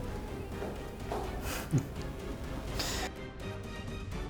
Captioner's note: laughter